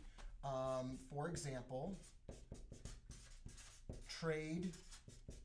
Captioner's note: marker writing